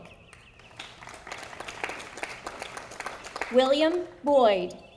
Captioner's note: audience applauding